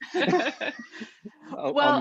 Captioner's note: laughing